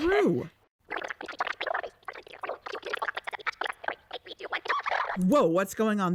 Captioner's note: click